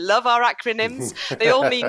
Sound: laughs

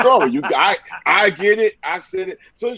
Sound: laughing

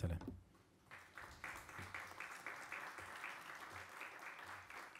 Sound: audience applauds

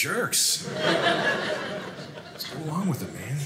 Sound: audience laughing

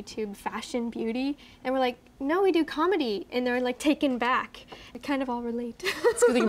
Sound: laugh

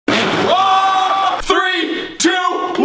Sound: screaming

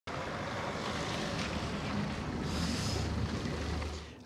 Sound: car rumbling

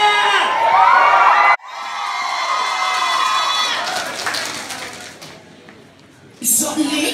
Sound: crowd cheers

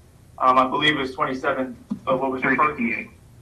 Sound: static

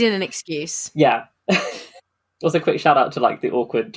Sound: laughs

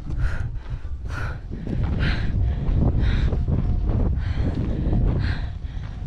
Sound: breath heavily

